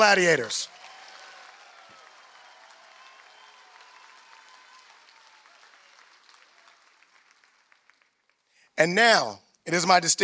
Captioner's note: applause